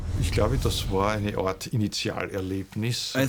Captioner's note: speaking German